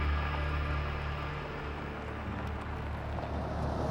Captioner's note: car approaching